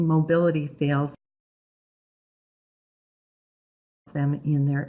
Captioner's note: no sound